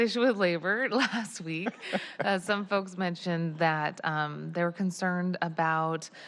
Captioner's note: laughter